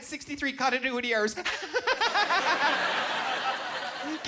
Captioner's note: laughing